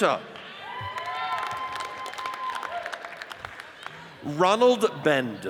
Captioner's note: audience cheers and applauds